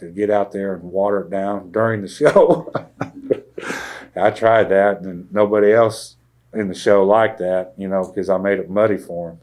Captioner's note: laughs